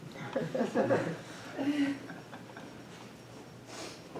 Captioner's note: audience chuckling